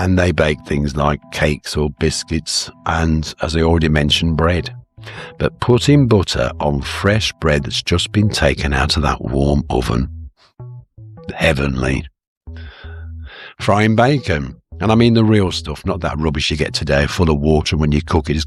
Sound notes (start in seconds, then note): 12.5 sighs and gasps